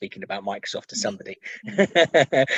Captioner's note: laughs